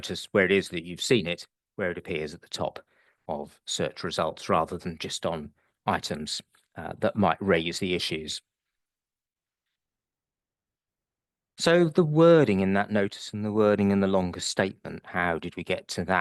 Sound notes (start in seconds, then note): 10.1 long pause